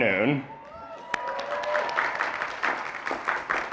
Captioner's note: applause